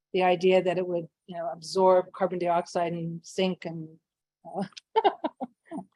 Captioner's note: laughs